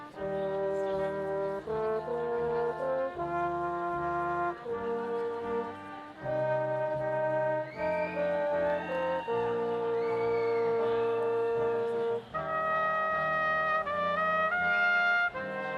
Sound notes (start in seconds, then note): 0.4 brass quintet music; 9.3 audience applauding; 12.5 brass quintet music